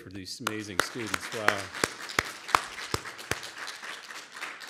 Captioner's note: audience applauds